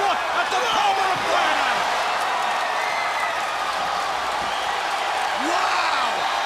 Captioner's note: crowd cheering